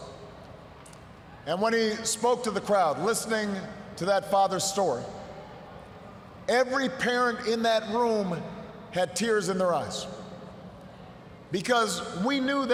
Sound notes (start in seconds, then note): none